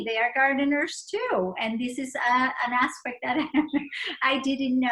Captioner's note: laughter